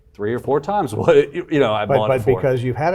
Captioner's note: chuckles